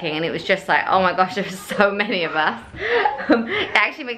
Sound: laughing

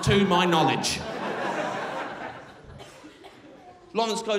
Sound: crowd laughing

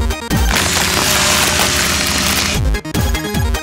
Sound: gross, bone crunching and mechanical sounds

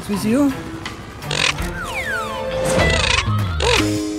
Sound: squeaking

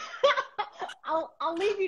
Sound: laughter

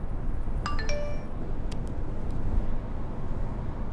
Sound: phone chimes

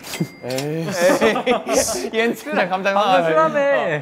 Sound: hahaha

